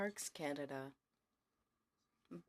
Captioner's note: speaking in french